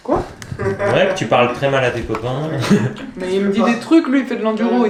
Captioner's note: laughs